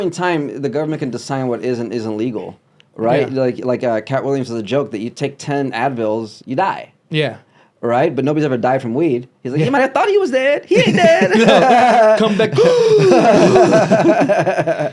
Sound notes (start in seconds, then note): 10.7 laughs